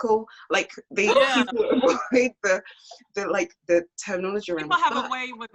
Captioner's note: laughs